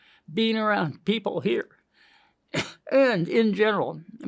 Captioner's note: coughs